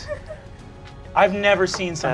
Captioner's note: laughing